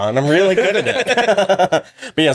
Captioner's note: laughing